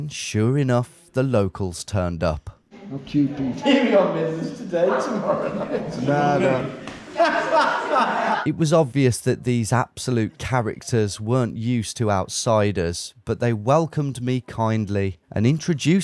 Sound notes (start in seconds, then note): 2.9 locals chatting and laughing